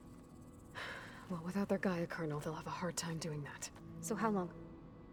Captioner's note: sigh